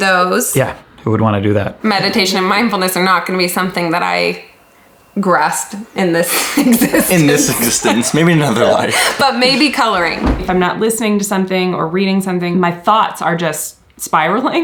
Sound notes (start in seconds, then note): 6.3 chuckles